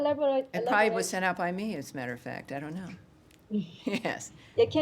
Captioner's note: laughter